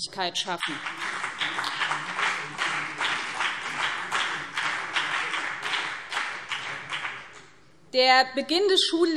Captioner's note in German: Beifall BÜNDNIS 90/DIE GRÜNEN und CDU